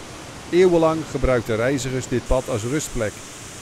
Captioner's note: voiceover